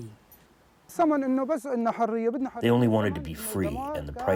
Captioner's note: through translator